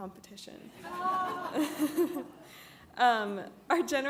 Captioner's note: all laugh